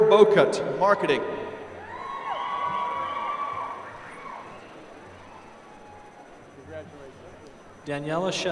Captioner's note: applause